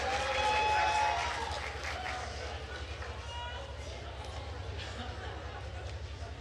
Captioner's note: attendees cheering and applauding